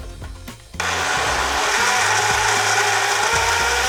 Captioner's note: blender whirs